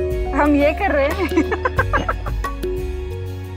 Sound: giggling

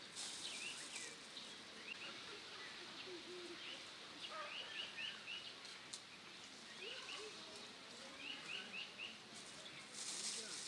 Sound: birds singing

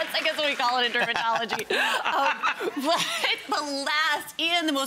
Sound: laughing

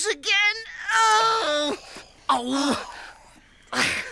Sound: groans

